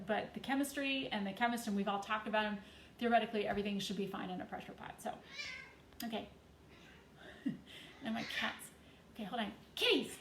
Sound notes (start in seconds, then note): 5.3 cats meowing